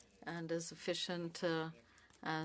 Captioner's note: speaking French